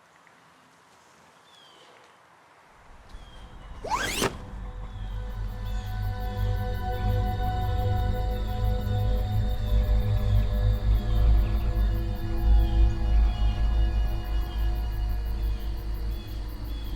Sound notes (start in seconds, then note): 3.6 zipper whizzes; 4.8 ominous music; 13.3 ominous music continues